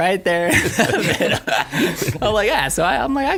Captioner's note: laughing